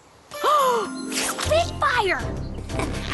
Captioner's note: gasp